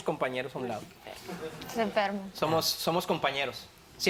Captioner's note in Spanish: Risas